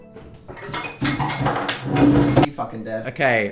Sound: reindeer lamp crashes

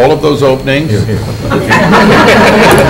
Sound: laughter

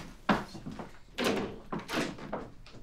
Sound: door closes

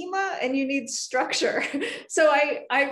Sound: laughing

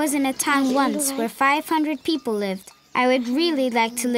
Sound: bells clanging

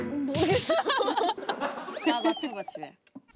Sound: more enthusiastic

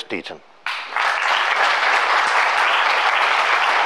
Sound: applause

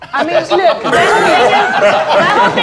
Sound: laughter

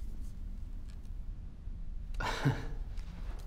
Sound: chuckles

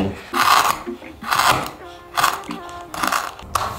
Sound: slicing

